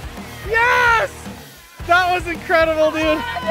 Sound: cheering

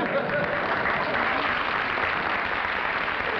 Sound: applause

